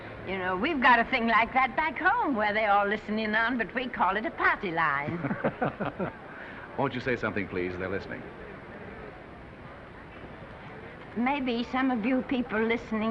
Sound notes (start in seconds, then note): 5.0 men laughing